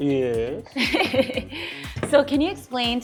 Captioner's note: laughs